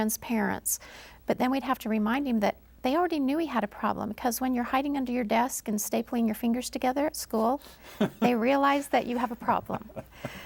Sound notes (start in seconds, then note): 7.8 laughing